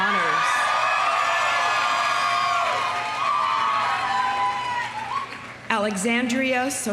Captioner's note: audience cheering; audience applauding